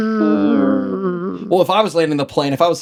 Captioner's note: imitates plane engine